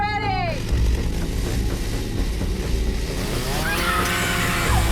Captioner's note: dramatic music; chainsaw revs; Abby shouts; dramatic music